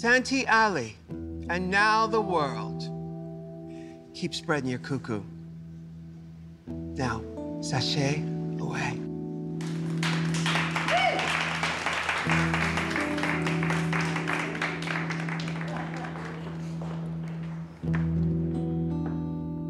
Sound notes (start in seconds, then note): 11.4 all applauding; 12.6 voiceover